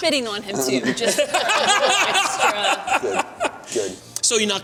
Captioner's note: laughter